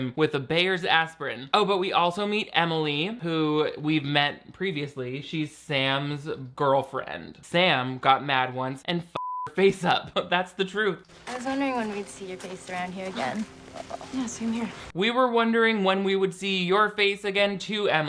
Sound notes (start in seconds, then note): 9.2 beep